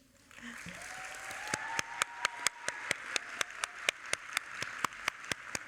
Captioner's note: audience applauding